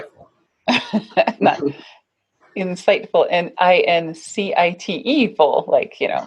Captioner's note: laughs